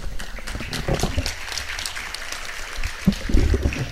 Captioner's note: audience claps